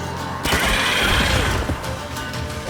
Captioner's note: shriek; crossbow fires